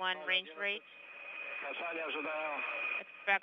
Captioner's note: russian transmission